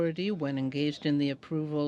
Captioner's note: speaking in french